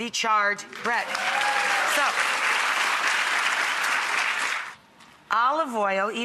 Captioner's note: audience applauds and cheers